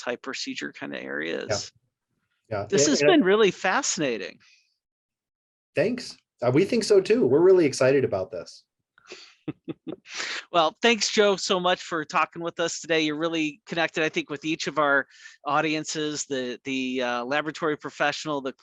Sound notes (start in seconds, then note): 9.2 laughs